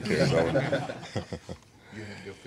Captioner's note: laughing